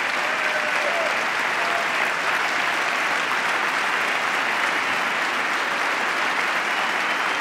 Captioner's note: applause